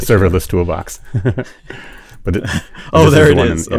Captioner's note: laughs